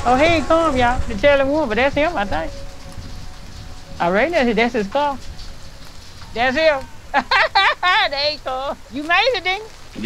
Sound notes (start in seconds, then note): 7.1 laughs